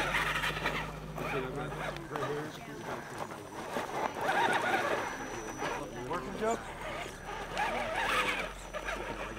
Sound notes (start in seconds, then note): 5.8 engine whining